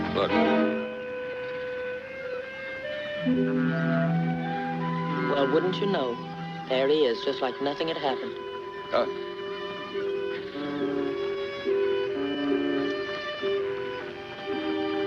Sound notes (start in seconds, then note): 2.2 light music; 10.2 boat horn blaring